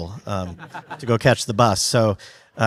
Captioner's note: audience laughs